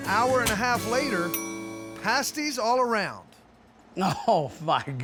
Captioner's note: bell dings